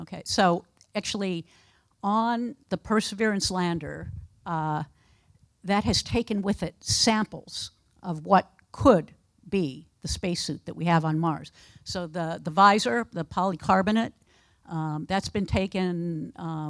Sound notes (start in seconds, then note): none